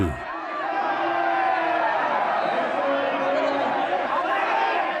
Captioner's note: crowd shouting